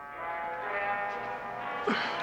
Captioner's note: coughs